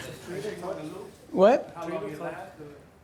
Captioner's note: voiceover